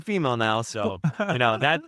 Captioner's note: laughing